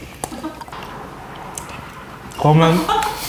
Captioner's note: squeaking sound